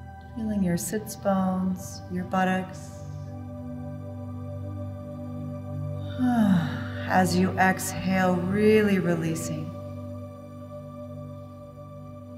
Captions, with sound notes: Feeling your sitz bones, your buttocks, (exhales) as you exhale, really releasing,